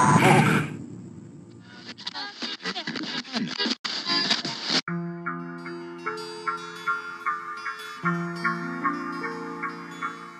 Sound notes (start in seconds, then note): 1.6 radio static; 4.8 soothing instrumental music